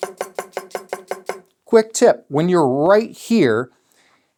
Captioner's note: tapping